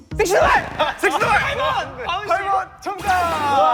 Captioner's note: confident shout